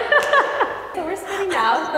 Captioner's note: laughing; fingers snapping